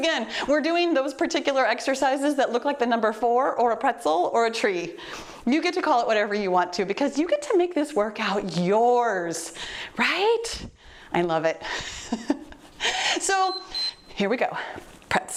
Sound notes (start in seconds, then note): 12.2 laughing; 13.4 timer beeps